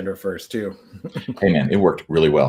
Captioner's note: chuckles